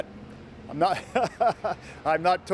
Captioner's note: laughs